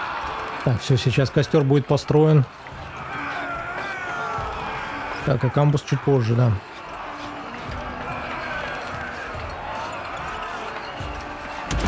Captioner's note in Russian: крик; крик; ликование